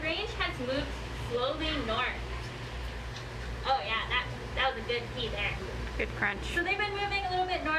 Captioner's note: socks crunches on food